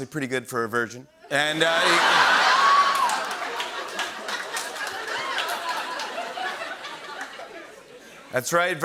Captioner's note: laughter